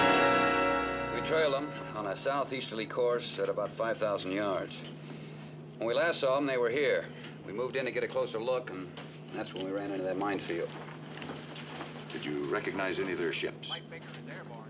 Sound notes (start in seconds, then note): none